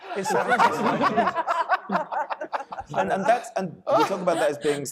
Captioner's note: panelists laughing